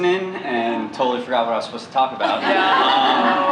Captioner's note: laughter